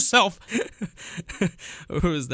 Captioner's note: nervous Laughter